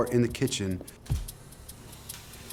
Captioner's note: shutter whirring